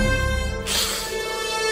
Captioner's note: hiss